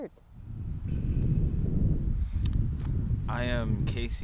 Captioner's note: air whooshing